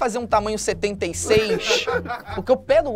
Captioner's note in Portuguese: risadas